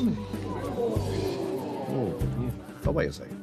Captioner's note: crowd exclaims